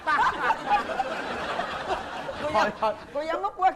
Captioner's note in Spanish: risa